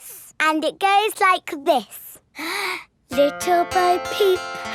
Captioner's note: inhales